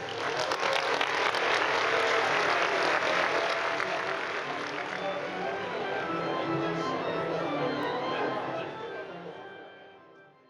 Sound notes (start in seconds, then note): 0.0 audience applauds; 4.6 upbeat organ music; 4.8 audience chatters